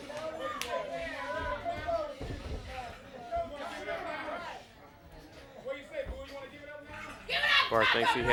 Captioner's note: crowd chatter